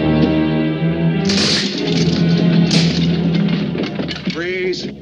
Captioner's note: door crashes